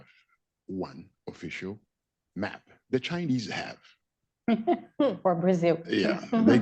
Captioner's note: laughs